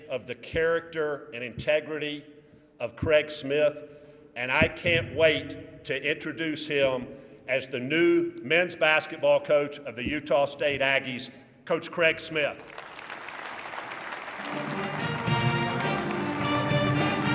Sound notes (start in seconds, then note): 12.4 applause